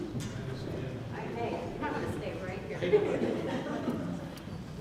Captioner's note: speaking off mic; laughing